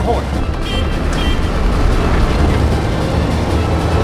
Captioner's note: horn beeping